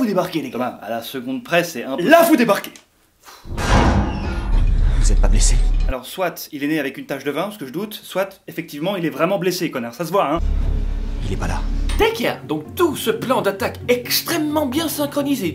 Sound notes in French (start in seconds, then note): 2.7 soupirs